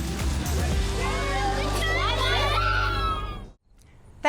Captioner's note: cheering